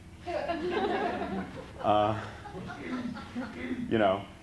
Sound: laughter

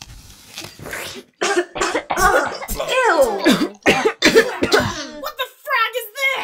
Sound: sipping noises; coughing and sputtering

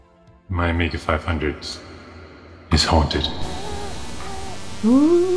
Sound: echoing; chiptune theme

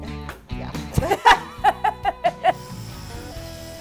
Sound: laughing

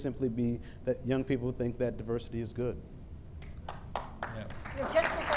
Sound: applause

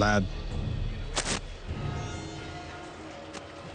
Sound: shirt rips

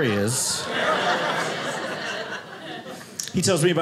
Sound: audience laughing

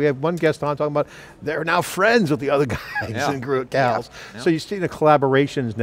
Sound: laughs

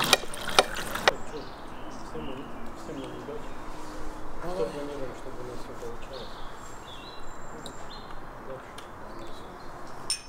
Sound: toasting

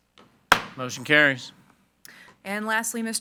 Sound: gavel thuds

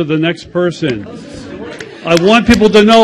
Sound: audience chatters and claps

